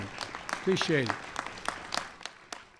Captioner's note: applause